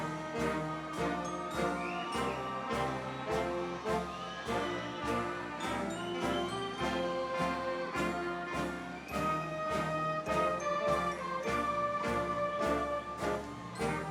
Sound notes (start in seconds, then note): 2.1 audience members wolf-whistling